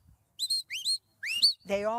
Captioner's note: whistling